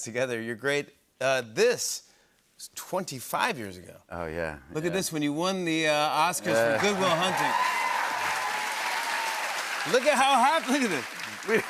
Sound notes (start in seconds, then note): 6.5 cheers and applause